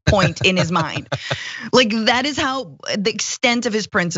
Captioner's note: laugh